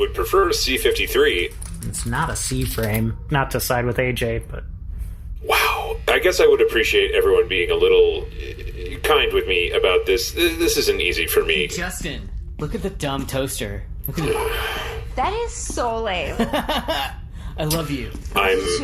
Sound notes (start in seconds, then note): 14.0 laughing; 16.3 laughs